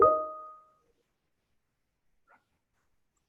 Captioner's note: beeping